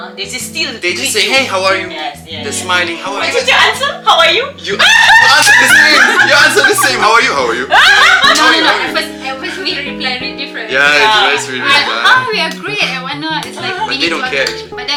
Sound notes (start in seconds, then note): 7.9 laugh